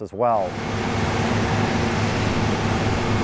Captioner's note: engine droning